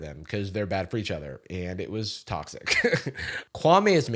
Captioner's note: chuckles